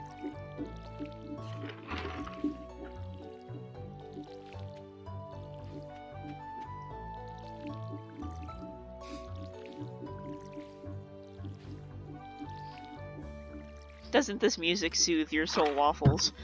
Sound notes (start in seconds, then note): 9.2 watering continues